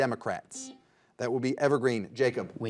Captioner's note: buzzer dings